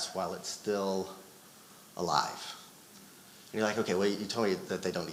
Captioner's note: none